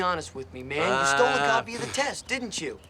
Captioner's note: Steve groans